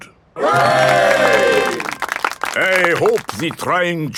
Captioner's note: clapping